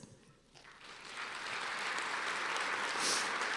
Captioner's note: applause